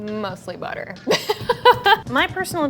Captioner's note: laughing